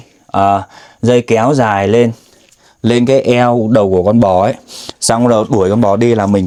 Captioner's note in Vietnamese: khịt mũi